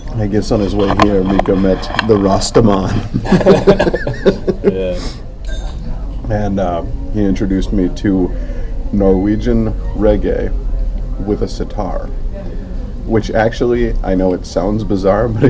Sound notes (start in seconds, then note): 3.0 laughing